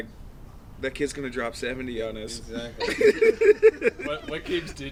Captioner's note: laughing